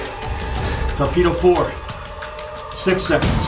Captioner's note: torpedo speeds; alarm blares